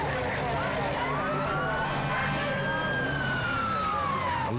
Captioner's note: siren wails